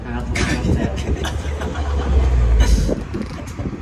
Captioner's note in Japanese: 笑う